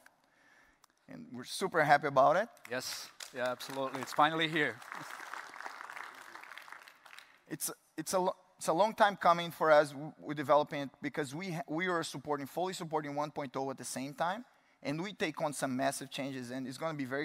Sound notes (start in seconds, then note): 7.6 applause